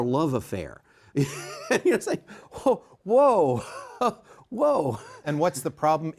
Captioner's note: laughs